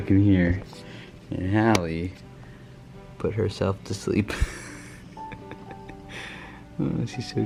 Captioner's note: laughs